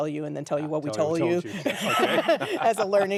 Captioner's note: laughing